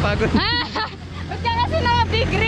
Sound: laughs

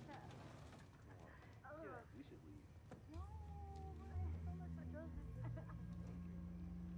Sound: chatter continues

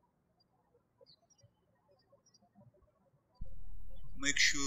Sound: birds chirping

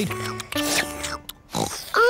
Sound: slurping; oinks

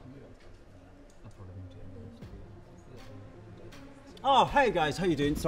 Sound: low chatter

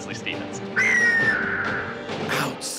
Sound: eagle cries

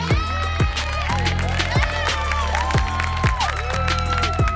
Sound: audience clapping

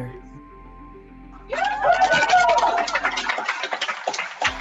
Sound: cheering

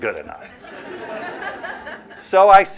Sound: laughter

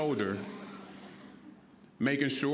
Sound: audience laughing

